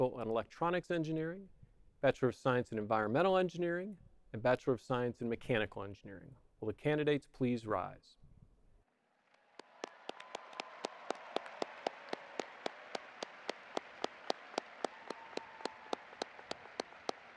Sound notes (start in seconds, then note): 9.2 audience applauding